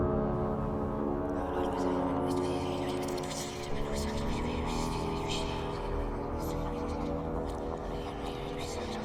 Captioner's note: whispering